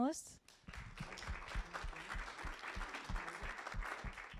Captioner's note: applause